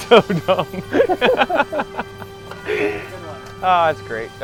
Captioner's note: laughs